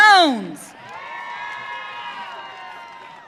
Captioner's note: audience cheering